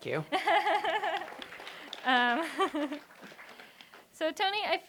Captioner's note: laughter and applause